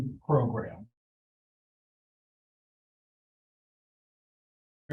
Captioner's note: audio drop